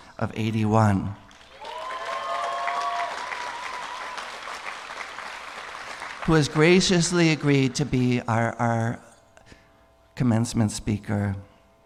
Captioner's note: applause